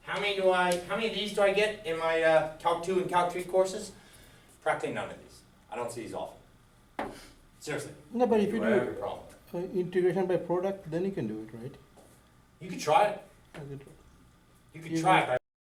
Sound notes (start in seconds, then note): 8.6 voiceover